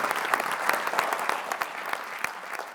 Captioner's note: applause